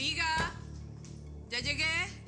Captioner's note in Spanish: Portazo